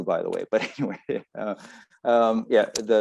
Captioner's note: laughs